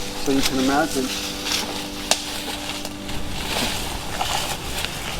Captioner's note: underbrush crunching